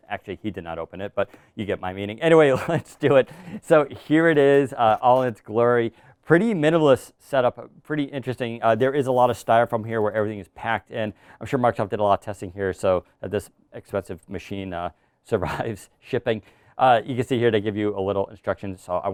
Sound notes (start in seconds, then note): 2.5 laughing